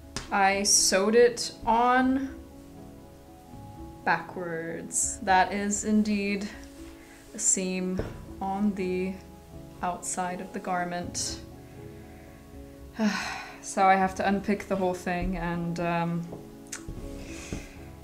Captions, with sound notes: I sewed it on... backwards. That is indeed a seam on the... outside of the garment. (Heavy sigh) So I have to unpick the whole thing and...